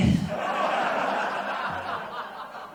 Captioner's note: laughter